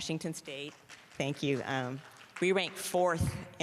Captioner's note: applause